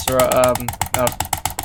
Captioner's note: click x17; click x19; click x20; click x21; click x22; click x23; click x24; click x25; click x27; click x28; click x18; click x26